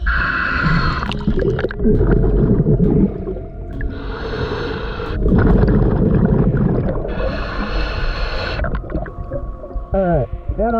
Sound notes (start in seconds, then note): 0.1 water burbling; 4.9 breathing heavily